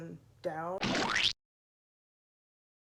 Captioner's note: sound effect